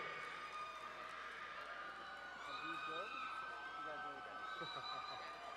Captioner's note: crowd cheering and applauding